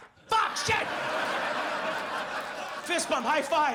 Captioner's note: audience laughs